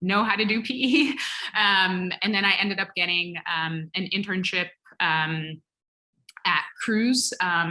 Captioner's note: laugh